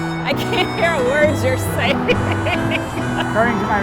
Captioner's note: laughs